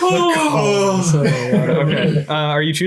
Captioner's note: laughs